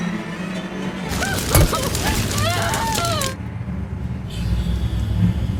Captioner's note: screaming